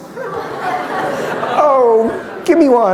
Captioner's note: laughter